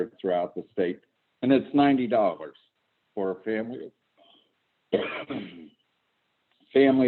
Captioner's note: coughs